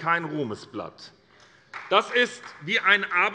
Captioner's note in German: Beifall bei Abgeordneten der SPD